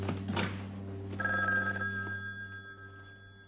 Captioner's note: telephone ringing